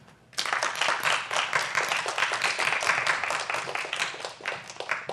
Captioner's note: applause